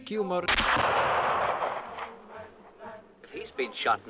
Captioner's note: gunshot